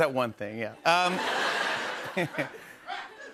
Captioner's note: laughter